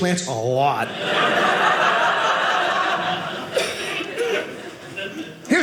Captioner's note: audience laughing